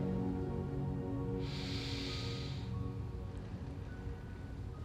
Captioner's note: breathing deeply